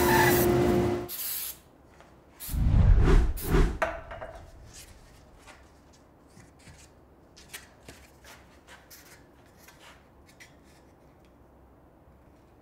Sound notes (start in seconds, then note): 1.1 can spraying; 2.5 screen graphic whooshing